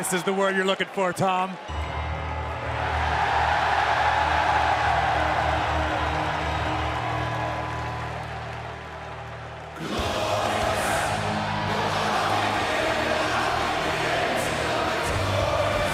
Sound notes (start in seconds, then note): 3.6 crowd cheering